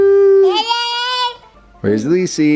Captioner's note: babbles